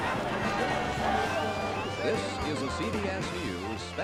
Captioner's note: shouting